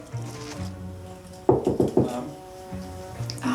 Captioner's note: knocks